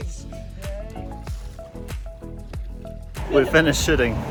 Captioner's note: water sloshes